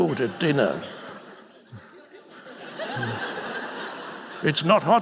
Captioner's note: audience laughing